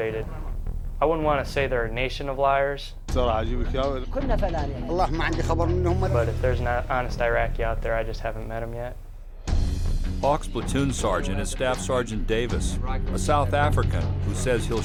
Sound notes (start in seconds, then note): 2.8 Iraqis speaking Arabic; 10.1 voiceover